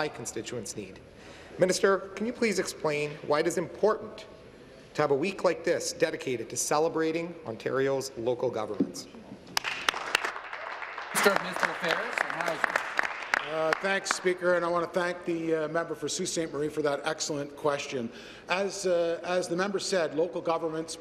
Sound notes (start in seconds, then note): 12.4 applause